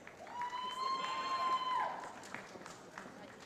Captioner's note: cheering